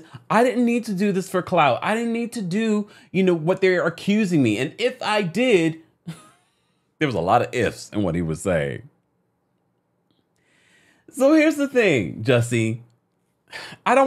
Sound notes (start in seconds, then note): 6.0 laughing amusingly